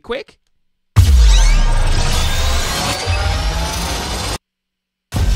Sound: mechanical whirring

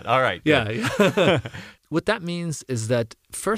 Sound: laugh

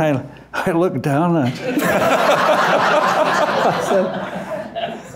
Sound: loud laughter

